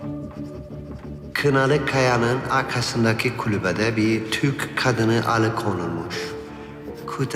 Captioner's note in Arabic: صوت بيير الداخلي